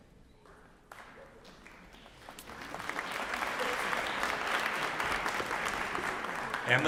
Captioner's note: applause